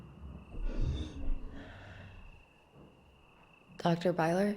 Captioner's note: object creaking